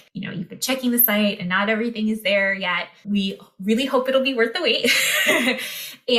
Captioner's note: laughter